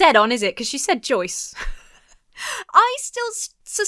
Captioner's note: laughs